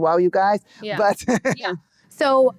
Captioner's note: laughing